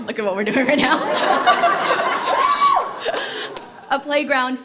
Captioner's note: laughter